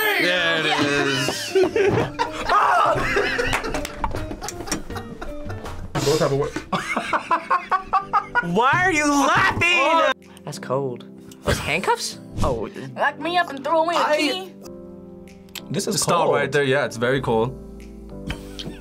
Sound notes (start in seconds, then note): 2.2 group laughs; 2.4 screams; 7.9 laughs